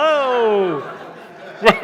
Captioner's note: laughter